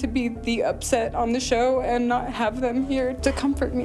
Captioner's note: sobbing